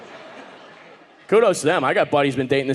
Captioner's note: audience laughing